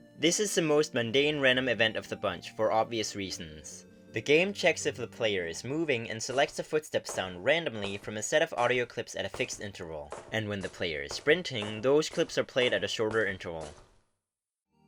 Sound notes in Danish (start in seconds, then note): 10.3 lidt hurtigere fodtrin